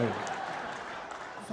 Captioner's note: audience laughing